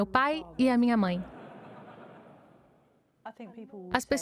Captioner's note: audience laughing